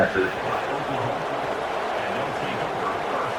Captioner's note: crowd Noises